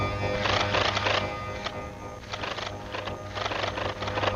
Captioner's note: mechanical buzzing